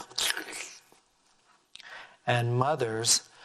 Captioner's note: slurping